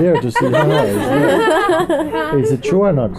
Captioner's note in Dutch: gelach